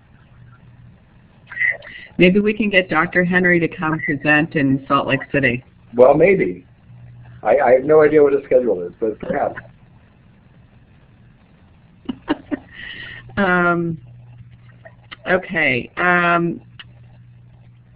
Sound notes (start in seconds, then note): 10.3 chuckles